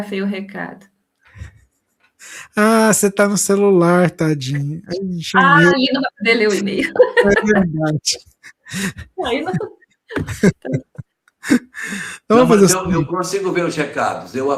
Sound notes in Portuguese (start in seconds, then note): 10.1 risadas; 10.9 suspirando